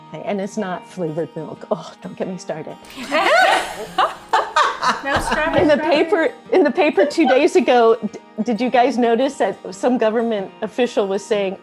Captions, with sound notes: and it's not flavored milk, don't get me started. (all laughing) In the paper two days ago, did you guys notice as some government official was saying,